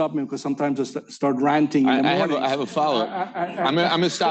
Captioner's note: laughter